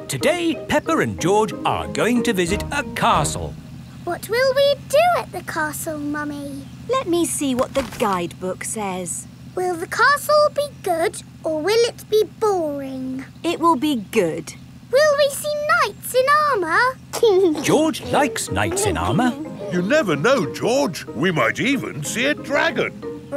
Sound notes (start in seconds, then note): 17.1 giggling